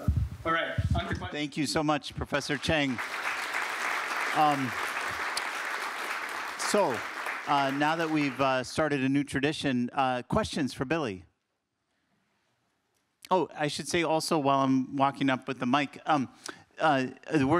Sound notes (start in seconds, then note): 2.4 applause